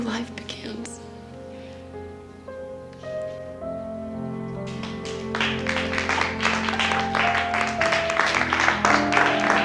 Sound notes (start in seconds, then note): 4.6 applause; 6.2 tranquil music